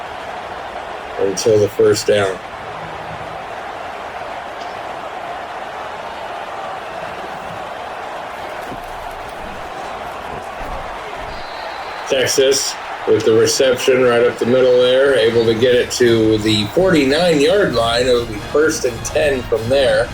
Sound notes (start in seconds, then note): 2.4 crowd Noises